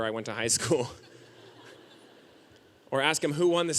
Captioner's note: audience laughing